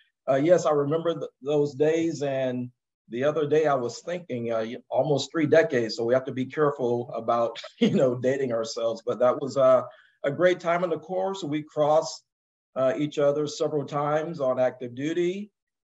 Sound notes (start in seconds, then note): 7.6 laugh